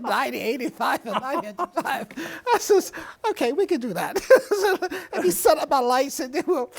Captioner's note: both laughing; laughs